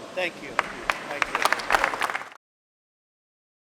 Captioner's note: applause